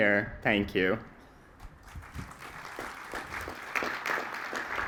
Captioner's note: applause